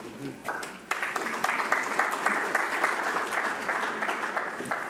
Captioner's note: audience applauds